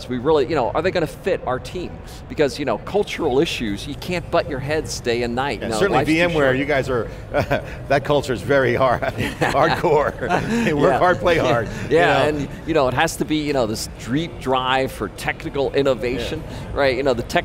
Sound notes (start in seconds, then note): 6.8 laughs; 11.8 laughter